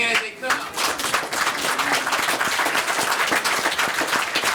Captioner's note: audience clapping